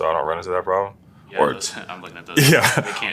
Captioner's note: laugh